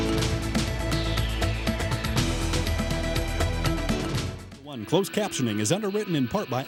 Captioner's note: voiceover